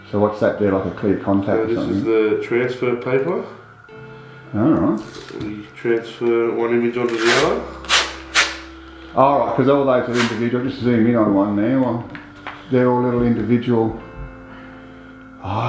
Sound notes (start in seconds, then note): 7.0 sound of tape unsticking; 8.2 unsticking sound